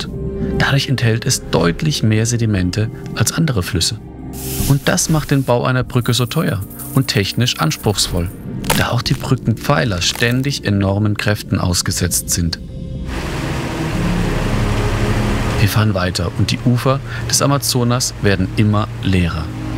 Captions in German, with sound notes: Dadurch enthält es deutlich mehr Sedimente als andere Flüsse. Und das macht den Bau einer Brücke so teuer und technisch anspruchsvoll, da auch die Brückenpfeiler ständig enormen Kräften ausgesetzt sind. (Lautes Wasserrauschen) Wir fahren weiter und die Ufer des Amazonas werden immer leerer.